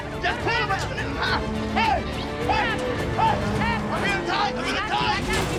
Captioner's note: shouting